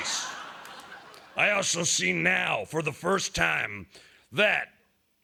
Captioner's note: laughter